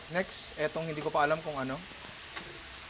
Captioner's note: none